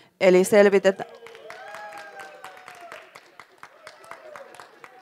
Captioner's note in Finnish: Hurraahuutoja ja aplodeja